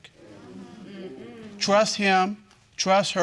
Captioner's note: crowd agreeing